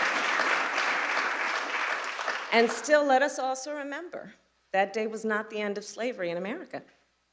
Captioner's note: applause